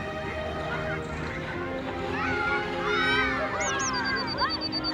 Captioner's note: children yelling